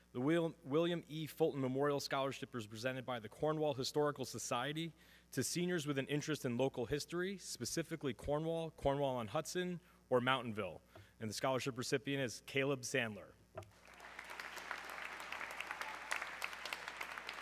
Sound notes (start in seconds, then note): 13.7 audience clapping